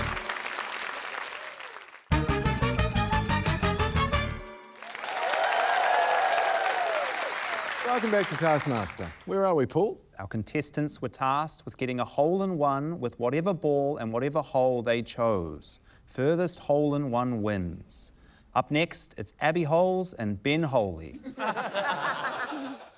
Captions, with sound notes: (UPBEAT FANFARE) (CHEERING, APPLAUSE) - Welcome back to Taskmaster. Where are we, Paul? - Our contestants were tasked with getting a hole in one with whatever ball in whatever hole they chose. Furthest hole in one wins. Up next, it's Abby Holes and Ben Holey. (LAUGHTER)